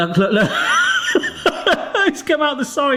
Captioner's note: laughing